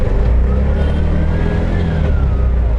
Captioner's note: cars honking; engine acceleration